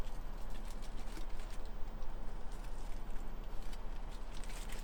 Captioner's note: tinfoil crinkles